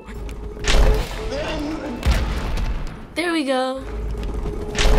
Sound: creature growls, boulder smashes

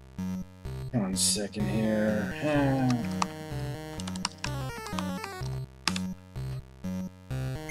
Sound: typing

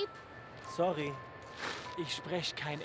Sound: foreign language

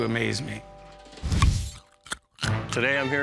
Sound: crunching sounds

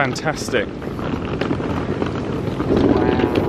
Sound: case wheels thudding continues

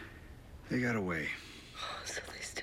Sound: inhales deeply

